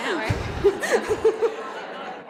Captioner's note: laughter